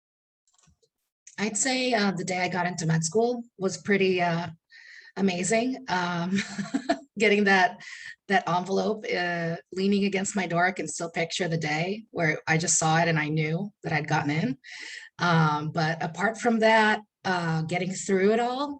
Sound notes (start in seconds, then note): 6.4 chuckles